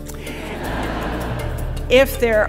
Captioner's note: audience laughing